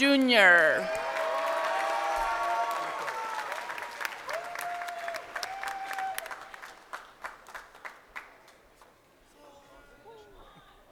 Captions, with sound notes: Juan Perez-Medrano Jr. (crowd cheering)